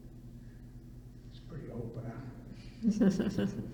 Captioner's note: laughter